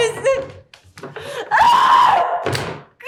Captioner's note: Delilah shrieks